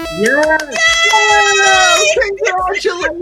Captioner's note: people cheering